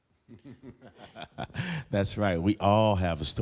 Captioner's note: laughing loudly